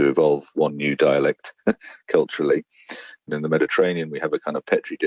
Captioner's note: chuckles